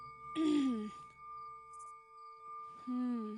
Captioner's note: tibetan Bell Sound